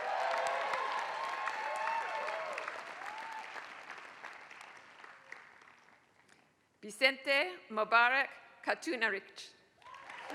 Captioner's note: applause